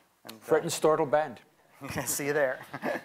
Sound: non-english speech

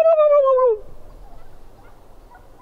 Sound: makes gobble sound; turkey's chirping

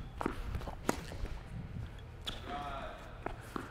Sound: racket hitting the ball

